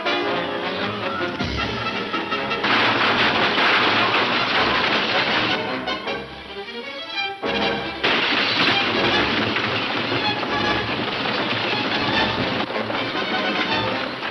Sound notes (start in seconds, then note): 7.9 intense instrumental music; 8.0 gun shooting